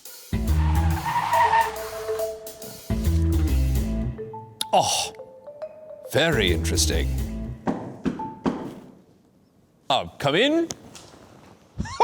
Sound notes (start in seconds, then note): 0.3 car screeching; 7.6 knocking on door